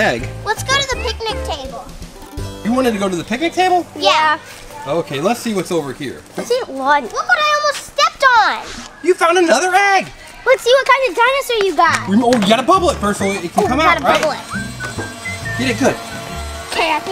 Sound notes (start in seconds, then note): 15.1 fan engine humming